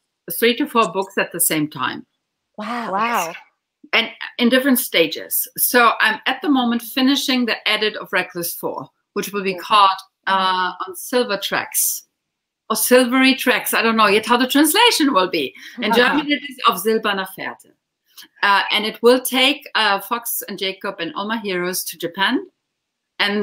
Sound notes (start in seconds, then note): 17.2 speaking in foreign language